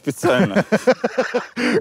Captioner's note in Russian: смеется